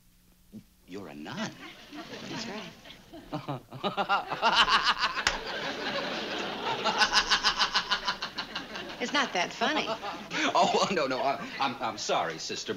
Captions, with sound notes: You're a nun? That's right. (laughs) It's not that funny. No, no, I'm sorry, Sister. Believe me.